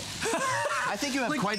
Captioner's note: laughter